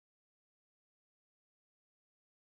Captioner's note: none